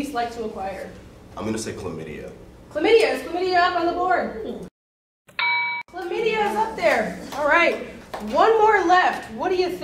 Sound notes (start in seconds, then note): 5.3 correct answer ding